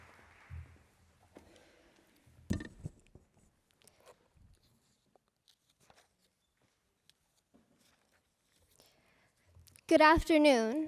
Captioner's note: appuse